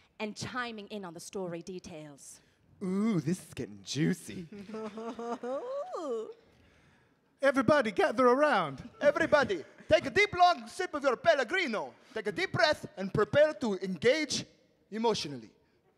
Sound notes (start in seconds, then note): 4.3 giggling